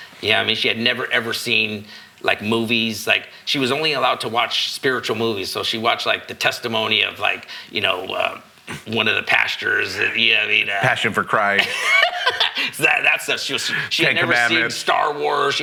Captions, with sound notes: Yeah, I mean, she had never ever seen movies. She was only allowed to watch spiritual movies. So she watched like the testimony of like, you know, one of the pastors. Passion for Christ. (laughing) That's the, she had never seen Star Wars.